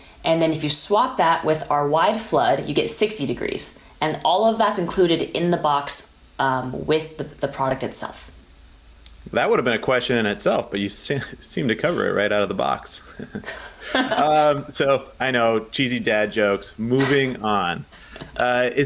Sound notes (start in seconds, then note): 12.9 chuckles; 13.0 both laughing